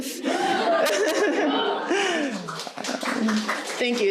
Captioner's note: audience cheering and clapping; laughing